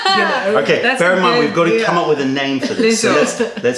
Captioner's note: laughter; laughter